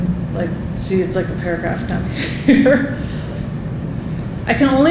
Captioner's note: laughing